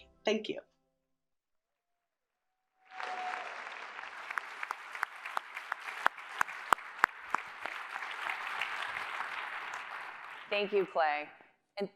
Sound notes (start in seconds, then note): 2.8 applause